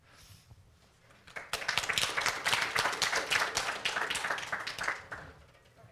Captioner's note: applause